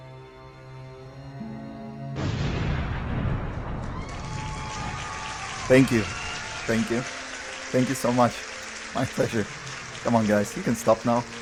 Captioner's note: applauds&cheers